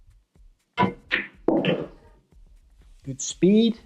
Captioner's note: balls hitting